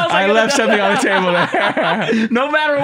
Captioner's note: laughter